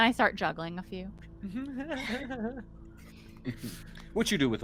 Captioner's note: Calla chuckles; Cornette laughs; chuckles